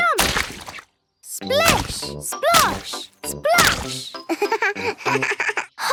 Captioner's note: laugh